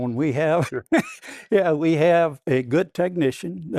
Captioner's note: laughs